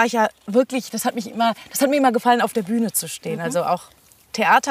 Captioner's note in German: none